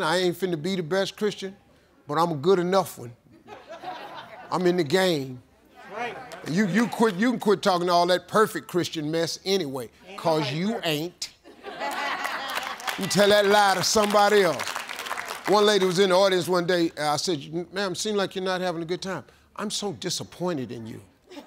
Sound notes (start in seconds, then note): 3.4 audience laughing; 5.7 audience agreeing; 11.5 audience laughing